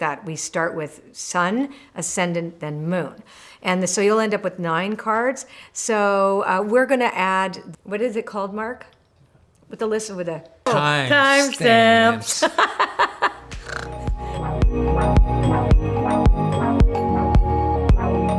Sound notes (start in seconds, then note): 12.8 laughing; 13.5 light instrumental music